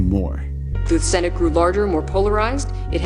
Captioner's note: soundbite of archived recording